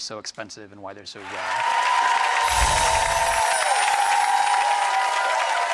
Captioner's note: audience applauding